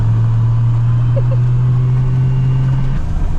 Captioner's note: more giggles